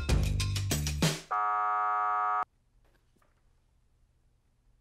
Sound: buzzer blares

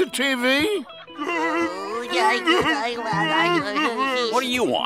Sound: babbling

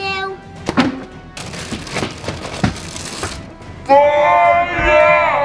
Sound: boxes shuffling

